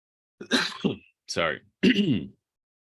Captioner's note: coughing